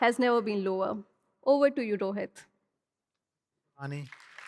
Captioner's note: applause